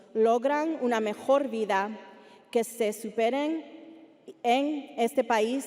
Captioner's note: speaking Spanish continues